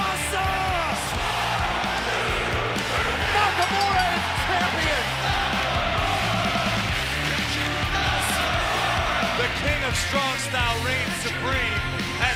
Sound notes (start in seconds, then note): 3.4 bell ringing; 7.6 fans chanting